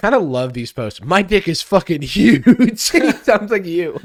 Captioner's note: laughs